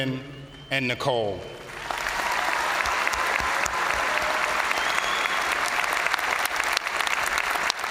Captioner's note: crowd cheering; crowd applauding